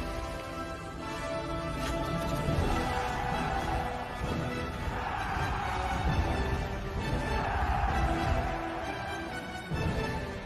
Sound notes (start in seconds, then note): 2.4 crowd shouting